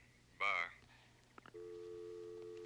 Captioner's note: line disconnects